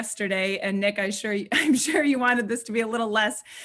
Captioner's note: laughing